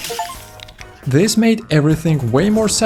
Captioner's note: achievement sound